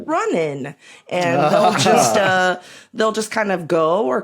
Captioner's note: chuckle